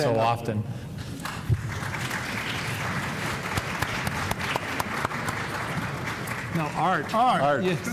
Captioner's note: applause